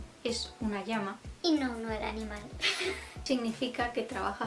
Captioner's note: giggles